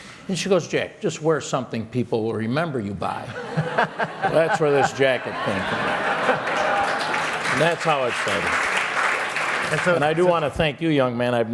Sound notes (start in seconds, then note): 6.2 laughter and applause